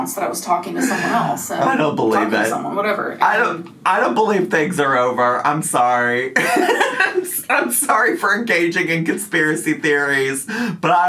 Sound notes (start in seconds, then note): 6.4 laughs